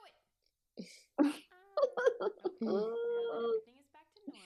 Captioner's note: laughter